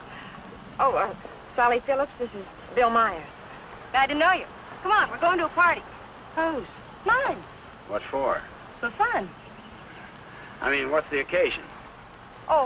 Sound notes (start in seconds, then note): none